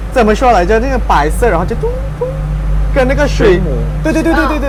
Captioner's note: doong doong